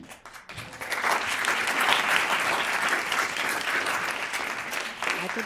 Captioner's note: clapping